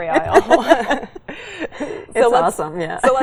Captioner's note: both laughing